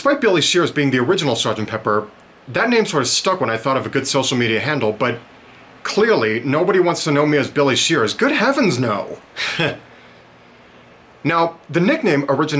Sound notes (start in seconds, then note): 9.3 short chuckle